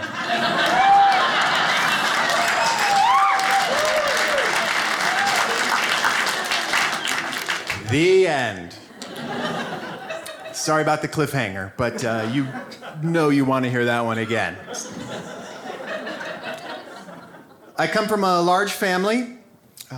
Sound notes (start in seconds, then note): 0.0 audience laughs; 3.1 audience applauds; 8.8 audience laughs; 14.1 audience laughs